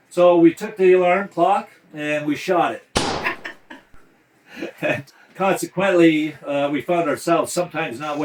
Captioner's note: bang